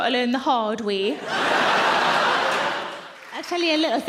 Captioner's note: audience laughing